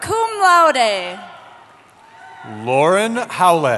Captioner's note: cheering